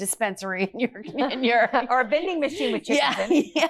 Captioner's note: laughs